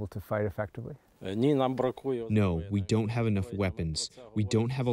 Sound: through translator

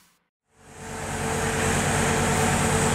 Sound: truck sounds

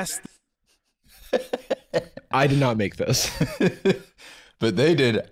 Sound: chuckling

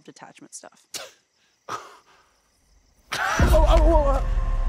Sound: Kevin scoffs; dramatic music

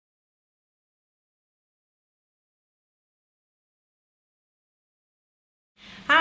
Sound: silence

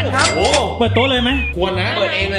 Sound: pat

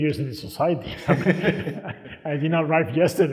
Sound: laughing

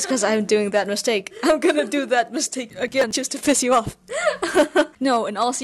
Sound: laughs

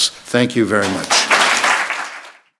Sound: audience applauds

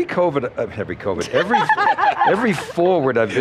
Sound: panel laughs

